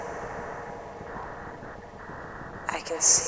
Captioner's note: fluttering pulse quickens